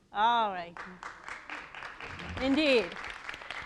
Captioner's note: audience applauding